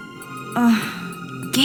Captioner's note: she groans